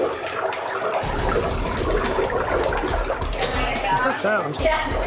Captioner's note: liquid burbling